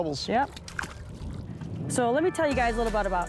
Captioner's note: fish plop